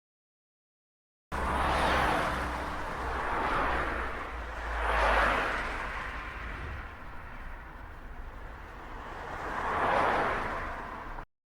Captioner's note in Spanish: Sonido de autos circulando en carretara a alta velocidad